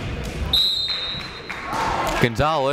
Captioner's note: whistle blaring